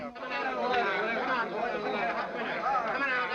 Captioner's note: people chattering